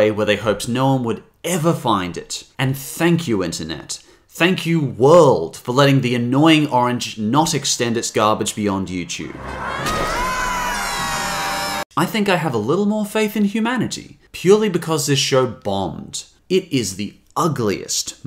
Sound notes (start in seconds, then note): 9.2 all screaming